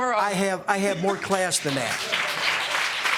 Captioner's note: audience clapping